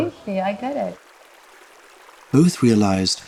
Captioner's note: river flows